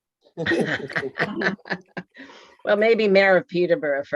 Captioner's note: laughing